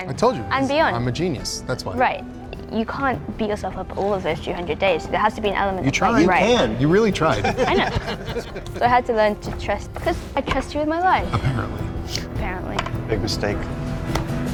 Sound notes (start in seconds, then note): 7.2 all laughing